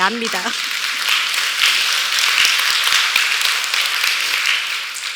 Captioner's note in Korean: 박수